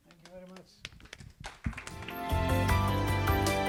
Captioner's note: applause